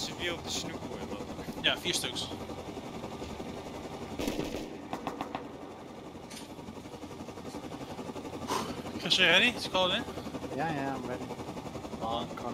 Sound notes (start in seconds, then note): 4.1 gunshots!; 8.4 puffs